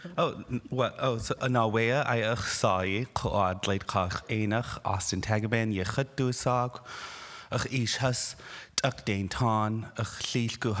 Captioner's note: speaking indigenous language